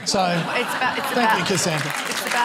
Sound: laughter

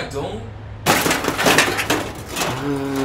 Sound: destruction sounds

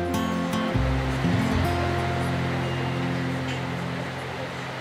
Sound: rain

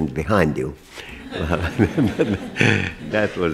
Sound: laughter

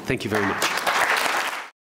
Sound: applause

